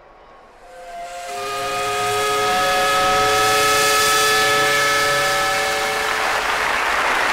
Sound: steam whistle; applause

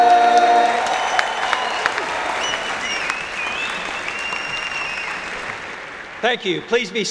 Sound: applause

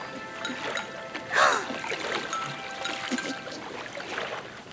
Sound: gasping

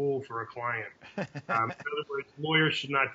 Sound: laughing

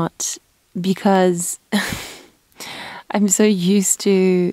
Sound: sighs

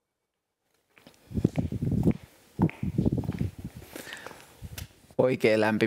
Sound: wind catching on a microphone and steps

